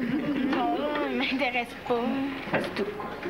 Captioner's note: Rires